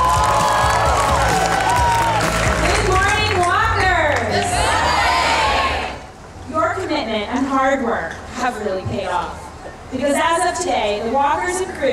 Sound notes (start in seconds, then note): 0.0 cheering; 4.7 crowd